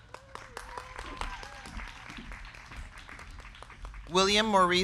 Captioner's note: crowd cheering; crowd clapping